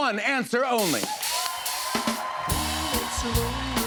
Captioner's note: cheers and applause